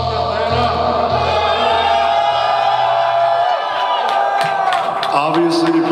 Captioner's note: audience cheering